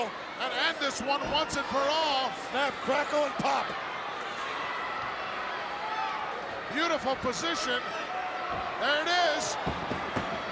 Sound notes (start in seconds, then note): 3.9 crowd yelling